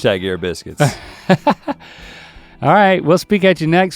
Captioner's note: laughs